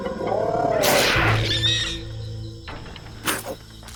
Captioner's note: animal shrieks